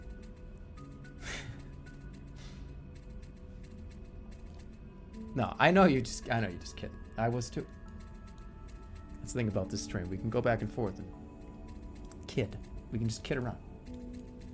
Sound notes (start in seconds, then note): 1.2 exhales